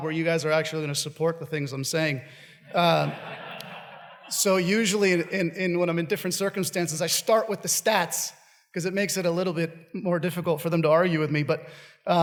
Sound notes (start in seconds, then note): 2.7 audience laughs